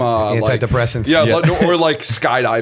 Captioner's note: chuckle